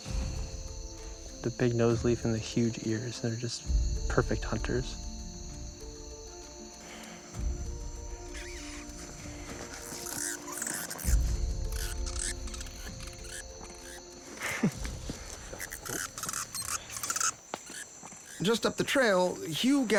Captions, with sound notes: They eat lizards, the big nose leaf, and the huge ears, they're just perfect hunters. (light music) (bat squeaking) - Just up the trail,